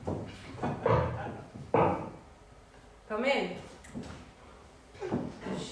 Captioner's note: knock